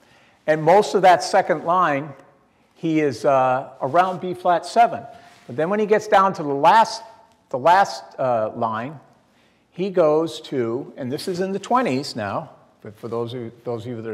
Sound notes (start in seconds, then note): none